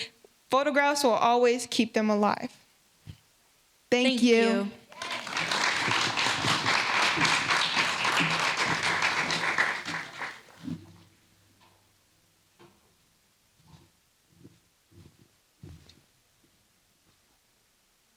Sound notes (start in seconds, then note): 7.4 applause